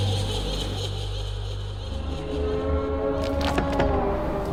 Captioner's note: laughing